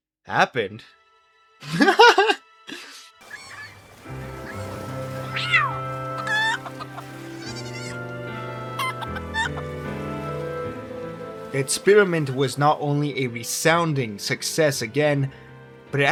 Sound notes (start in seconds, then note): 1.6 laughter